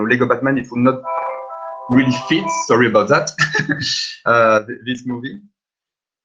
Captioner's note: phone rings